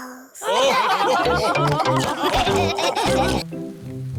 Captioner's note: laughter